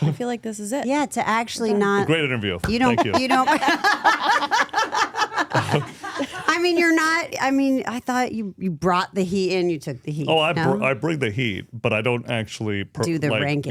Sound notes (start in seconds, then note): 7.6 both laughing